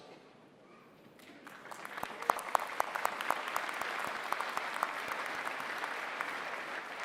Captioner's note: applause